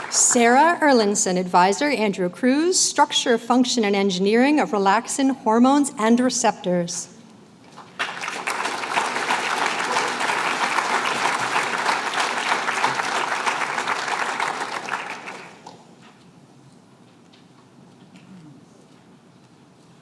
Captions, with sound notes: Sarah Erlandson. Advisor, Andrew Kruse. Structure, function, and engineering of relaxin hormones and receptors. [APPLAUSE]